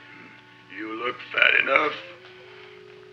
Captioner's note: chuckles